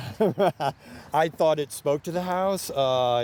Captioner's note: ^laughter^